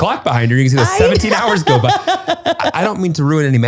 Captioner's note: laughs